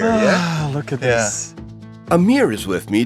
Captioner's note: sighs